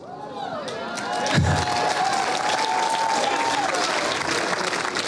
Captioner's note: cheering and clapping